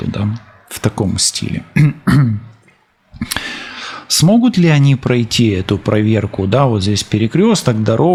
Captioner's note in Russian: откашливается; вздыхает